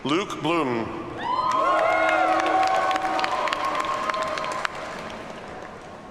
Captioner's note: audience cheers and applauds